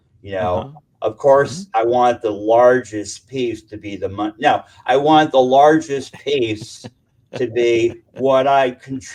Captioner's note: chuckle